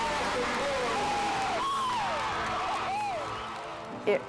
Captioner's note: crowd cheers